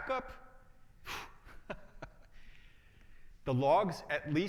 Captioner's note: laughs